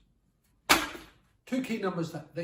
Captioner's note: money falling